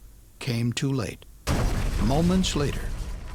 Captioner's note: sound of explosion